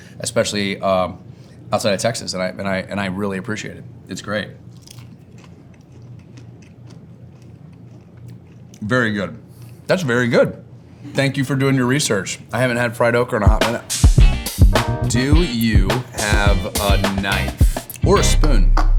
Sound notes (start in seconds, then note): 4.7 okra crunches; 13.9 bright music